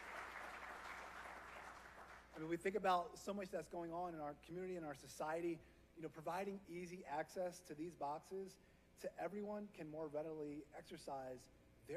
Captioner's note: applause